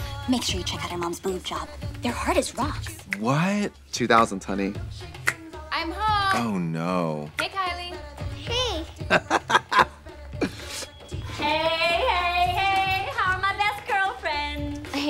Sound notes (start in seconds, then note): 9.0 Trixie chuckles